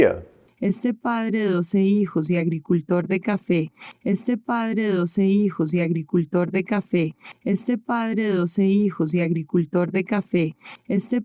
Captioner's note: spanish